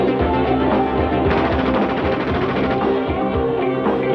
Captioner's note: machine gun rattling; upbeat techno music